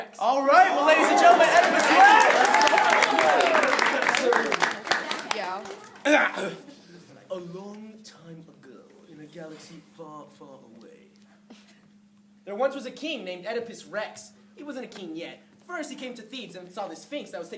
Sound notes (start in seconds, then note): 2.7 applause; 6.0 clears throat